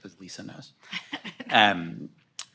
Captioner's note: laughs